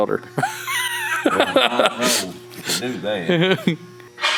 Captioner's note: laughs loudly